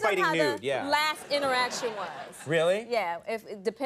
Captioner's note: audience laughing